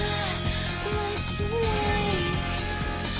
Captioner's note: alarm ringing